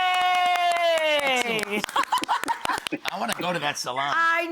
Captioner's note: applause